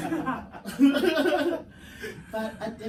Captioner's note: everyone laughs